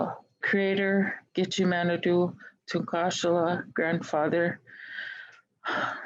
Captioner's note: speaking in Native Language